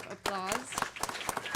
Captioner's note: applause